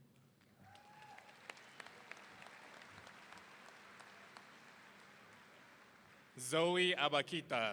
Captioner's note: audience applauding; audience cheering